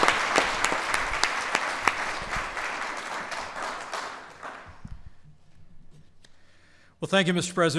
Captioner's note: applause